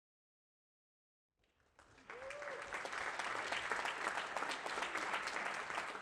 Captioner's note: applause